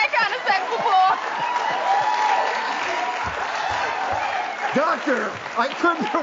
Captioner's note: audience roars with laughter